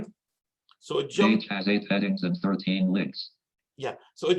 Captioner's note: automated Voice